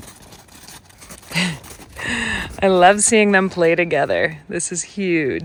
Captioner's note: chuckles